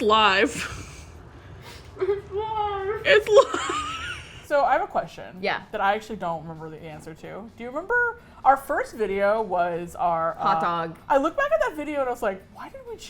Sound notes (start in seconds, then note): 1.7 mouth full, stifling sobs of joy; 1.7 laughing